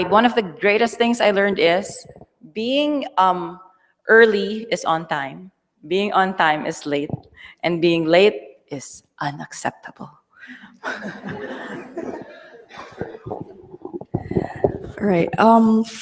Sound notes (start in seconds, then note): 10.8 laughter